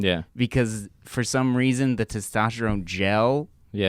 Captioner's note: none